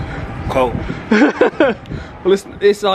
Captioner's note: laughs